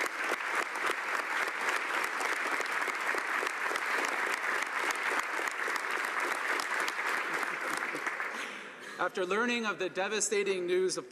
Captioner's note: applause